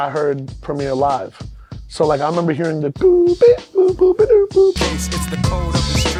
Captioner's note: mouth scratch